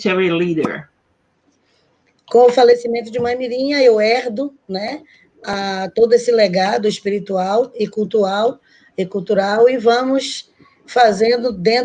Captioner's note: speaking Portuguese